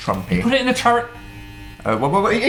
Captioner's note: bzzzz